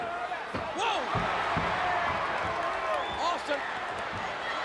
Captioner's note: crowd cheering